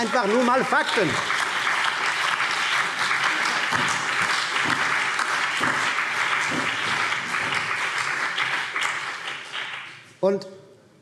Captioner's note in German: Beifall BÜNDNIS 90/DIE GRÜNEN, vereinzelt CDU, SPD und DIE LINKE